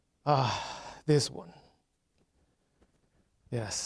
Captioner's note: sighing